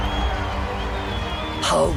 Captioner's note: crowd cheering